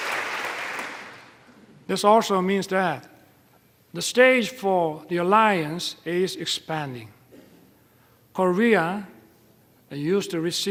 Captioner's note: applause